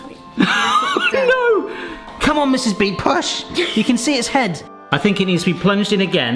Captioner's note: laughs